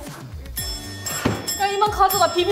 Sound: bell rings

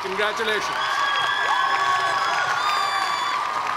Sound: cheers and applause

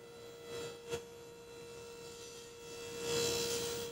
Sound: table saw buzzing

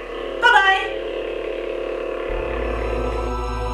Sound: humming sound effects

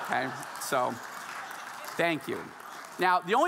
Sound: audience laughing

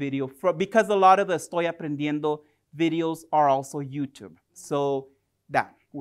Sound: spanish

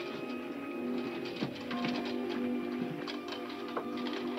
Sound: wood rattling

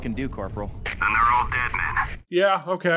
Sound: RICHARDS over the radio

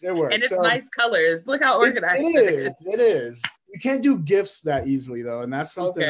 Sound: laughs; laughs

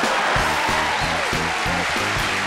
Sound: laughing; cheering; clapping

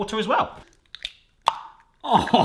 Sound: crack; plop

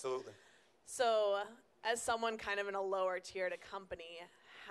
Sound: voiceover

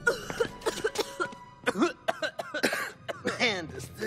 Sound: coughing

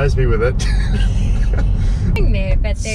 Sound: laughs

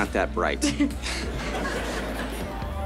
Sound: chuckles

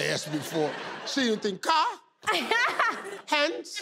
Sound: laughing

